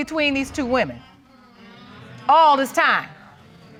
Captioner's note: audience coos